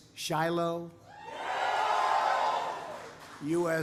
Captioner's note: applause